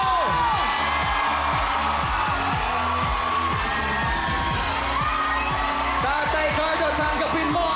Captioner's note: audience cheering